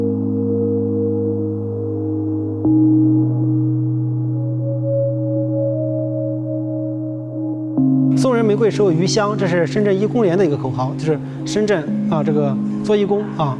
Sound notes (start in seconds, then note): 0.1 gentle music; 7.7 speaker speaking in foreign language